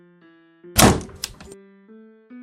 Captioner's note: door slams